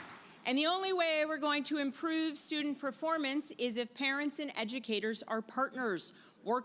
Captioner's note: applause